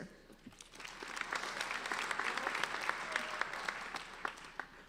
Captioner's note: applauding